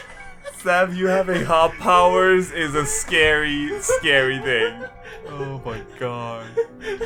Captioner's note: laughing